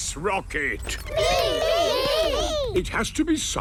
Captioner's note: calling out in turn